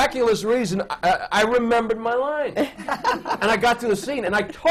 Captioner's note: laughter